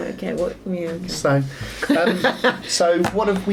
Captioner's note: chuckles